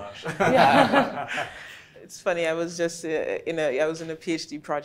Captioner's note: everyone laughing